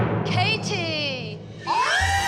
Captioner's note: girls squealing, cheering